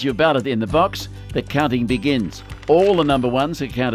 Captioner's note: pages shuffling